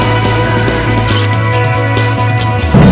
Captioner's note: photo click